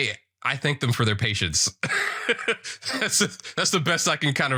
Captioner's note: laughs